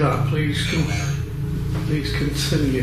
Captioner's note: ghost box speaks